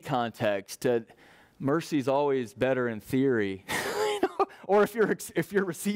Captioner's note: laughs